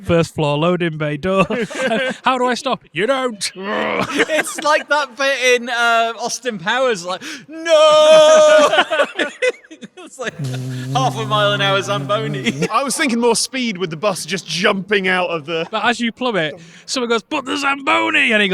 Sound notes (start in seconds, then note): 10.3 vrooming; 10.3 group laughing